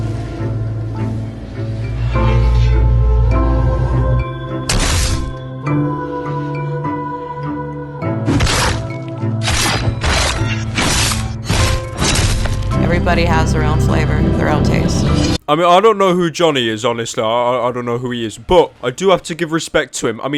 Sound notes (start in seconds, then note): 4.6 stabbing noise; 9.4 knife gets shoved deeper